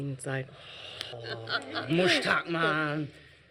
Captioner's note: groaning